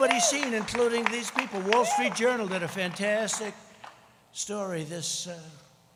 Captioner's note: applause